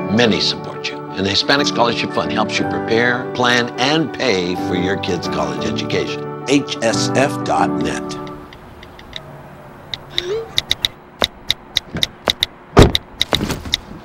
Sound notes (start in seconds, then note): 8.3 tapping